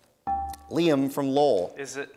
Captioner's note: dinging